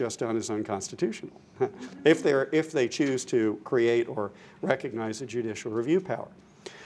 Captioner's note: laughter